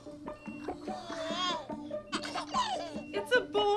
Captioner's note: baby babbles